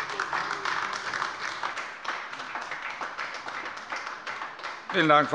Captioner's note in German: Beifall bei der LINKEN